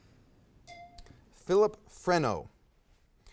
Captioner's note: timer dings